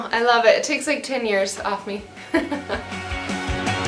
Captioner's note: laughs; fast paced rhythmic rock music